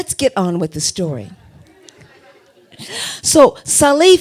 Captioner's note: audience laughter